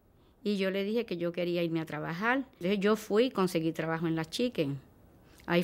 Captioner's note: speaking in spanish